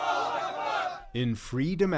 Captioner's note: cheering; chanting